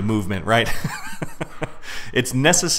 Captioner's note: chuckles